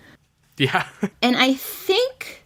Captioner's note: laughs